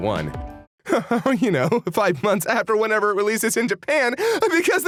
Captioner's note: Kaiser chuckles